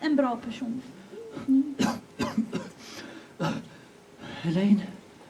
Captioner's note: coughs